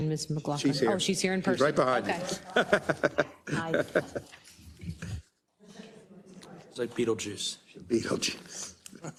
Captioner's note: laugh